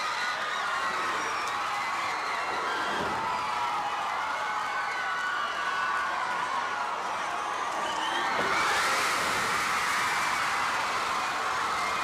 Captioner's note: crowd cheering